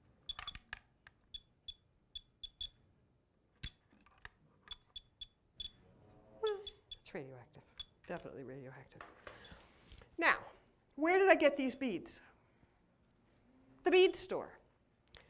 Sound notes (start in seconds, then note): 0.1 beeping; 4.9 faster beeping